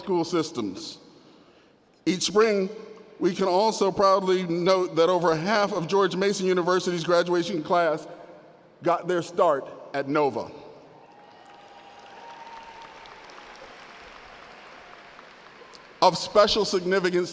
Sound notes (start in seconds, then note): 14.5 applause